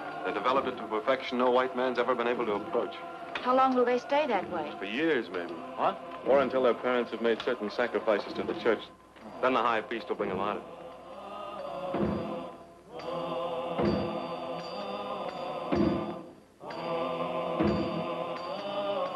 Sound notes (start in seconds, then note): 11.3 drums banging; 11.3 people chanting